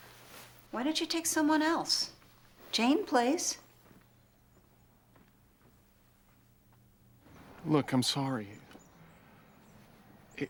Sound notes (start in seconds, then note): none